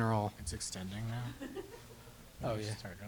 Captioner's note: laughs